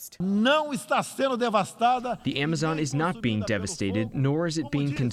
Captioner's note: through translator